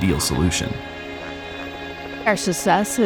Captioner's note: helicopter buzzing